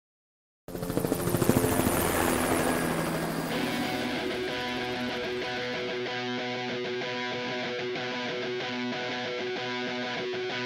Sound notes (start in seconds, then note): 0.6 helicopter flying; 3.5 rock music begins